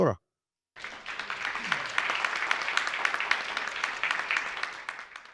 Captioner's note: audience applauds